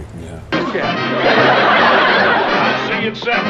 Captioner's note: laughter